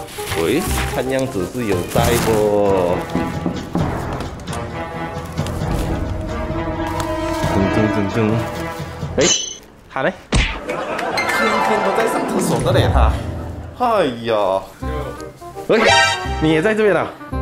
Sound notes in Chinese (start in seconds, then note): 3.1 敲门